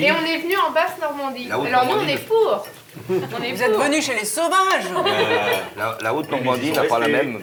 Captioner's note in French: rires